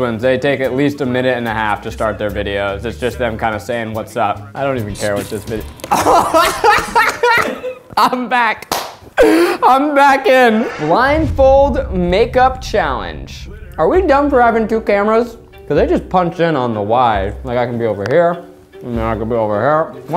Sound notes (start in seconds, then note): 5.8 laughing